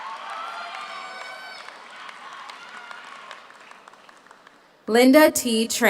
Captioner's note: audience cheers; audience applauds